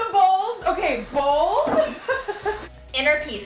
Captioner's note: laughs